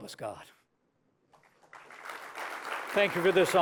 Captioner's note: applause